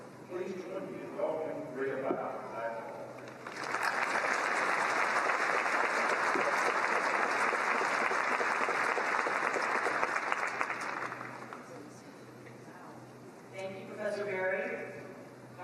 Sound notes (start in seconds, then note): 3.2 applause